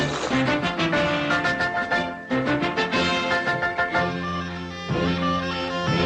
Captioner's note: wheels humming